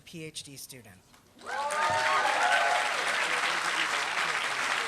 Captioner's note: applause